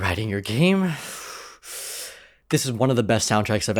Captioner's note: takes deep breath